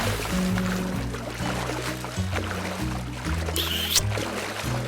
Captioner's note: splashing